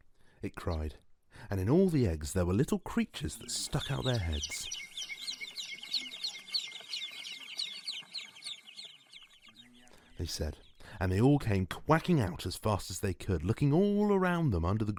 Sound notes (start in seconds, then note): 0.0 egg hatching and chirping sfx; 3.3 multiple ducklings chirping sfx